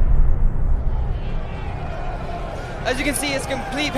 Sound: eerie noise; crowd chatters; sirens wail

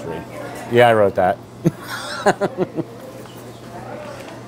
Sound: laughs

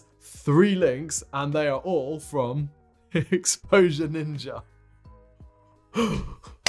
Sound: laughs then sighs

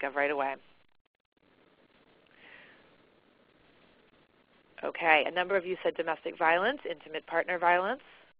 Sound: silence

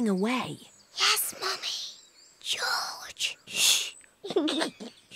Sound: whispers; giggles

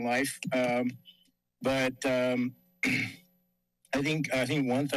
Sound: clears throat

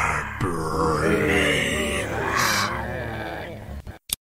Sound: zombie Moans

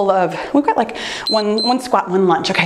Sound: timer beeps

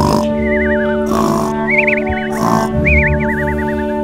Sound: ambient music; birds whistling; snoring

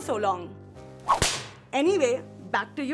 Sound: whip cracks

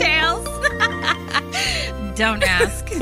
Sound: laughs

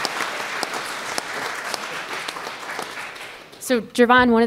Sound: applause

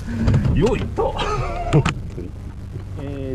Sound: laughs

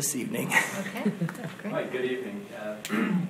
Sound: laughs

